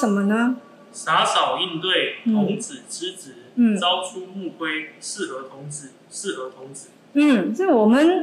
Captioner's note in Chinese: 朗讀